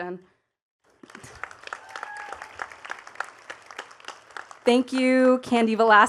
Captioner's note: attendees cheering and clapping